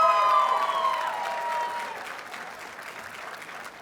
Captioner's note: audience cheers and applauds